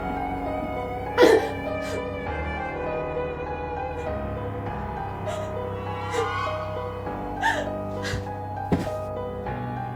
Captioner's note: Teri's pained gasps